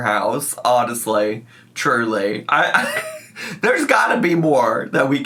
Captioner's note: laughs